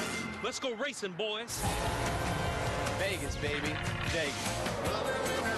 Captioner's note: engine roaring